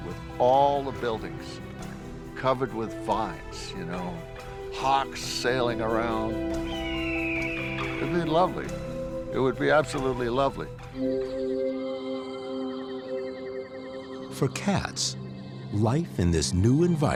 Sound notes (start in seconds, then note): 5.7 hawk calls